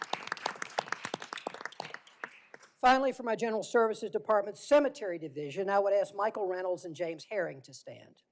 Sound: applause

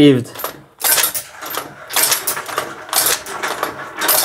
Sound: gates clicking

